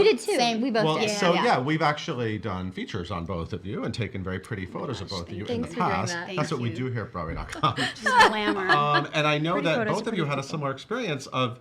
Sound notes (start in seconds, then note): 7.5 laughing